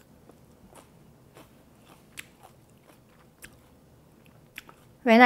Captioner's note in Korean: 사각사각 씹는 소리